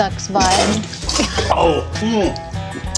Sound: spitting

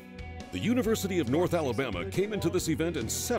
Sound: voiceover

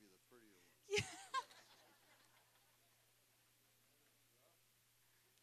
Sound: audience laughing

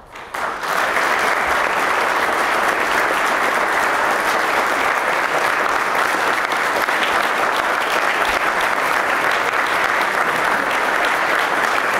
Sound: applause

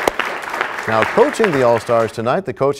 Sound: applause

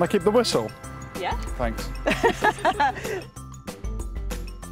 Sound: all laugh

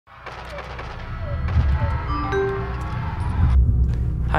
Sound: the sound of gunshots from a violent video game

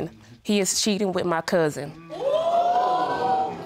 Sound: audience gasps

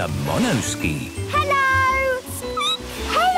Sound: squeaking

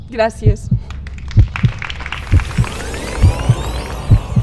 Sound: applause

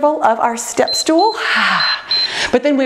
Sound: timer beeps

